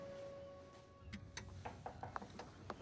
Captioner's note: knock on door